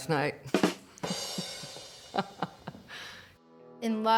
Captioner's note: chuckling